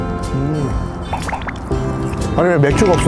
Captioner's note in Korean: 냠냠